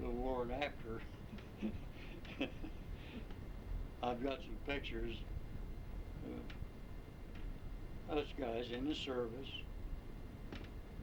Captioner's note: laughs